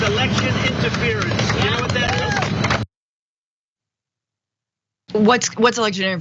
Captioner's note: applause